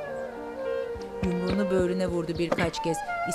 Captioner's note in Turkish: Vurma sesi